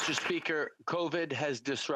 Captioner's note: applause